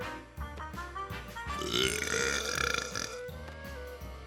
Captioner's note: belching